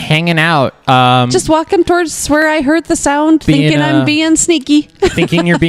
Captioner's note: laughs